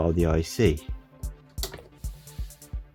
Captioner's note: click of the switch